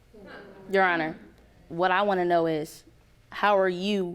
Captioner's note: audience groaning